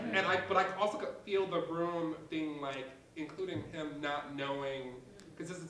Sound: none

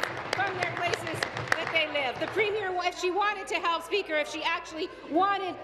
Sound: applause

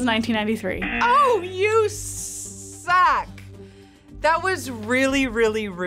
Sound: buzzer rings

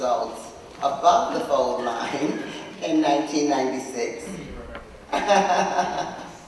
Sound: awwww

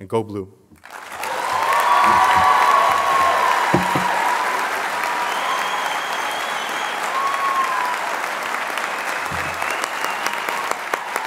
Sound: applause

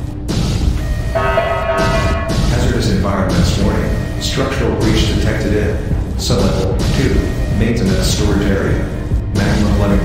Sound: announcement Chime

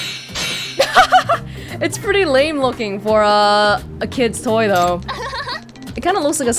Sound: chuckles

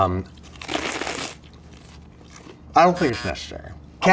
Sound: lettuce crunching

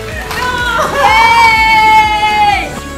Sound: team cheers; more cheers

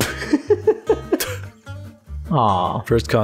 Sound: laughter

